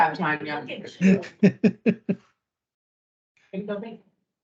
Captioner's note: speakers laughing